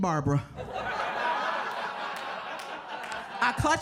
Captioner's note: audience laughs